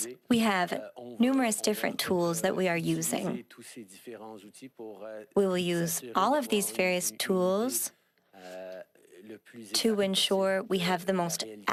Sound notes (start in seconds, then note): 0.9 speaking French